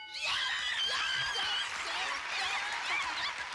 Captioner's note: cheers and applause